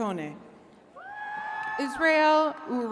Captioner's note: attendees cheering